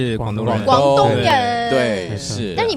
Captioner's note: in Cantonese